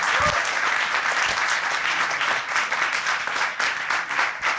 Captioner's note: audience applauding